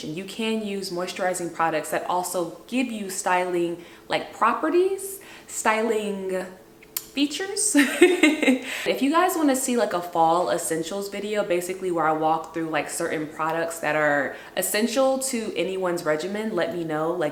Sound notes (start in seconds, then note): 7.8 laughs